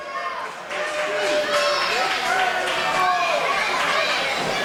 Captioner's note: crowd murmurs